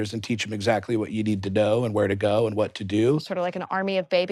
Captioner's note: none